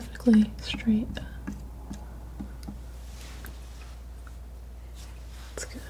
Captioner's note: tapping